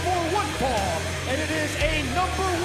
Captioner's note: bell ringing